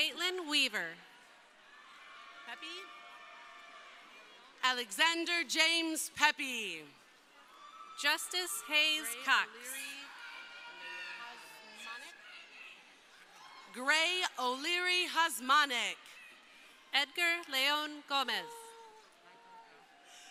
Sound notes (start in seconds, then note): 6.7 crowd cheering